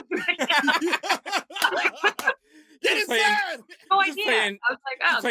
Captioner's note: laughter